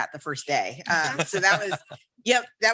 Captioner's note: group laughs